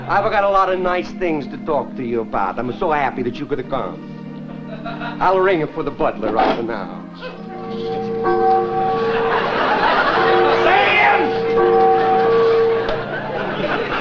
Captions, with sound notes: I've got a lot of nice things to talk to you about. I'ma so happy that you could come. I'll ringa for the butler righta now. (church bell rings)